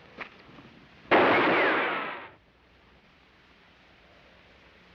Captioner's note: gunshot bangs